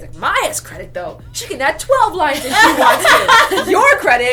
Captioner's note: laughter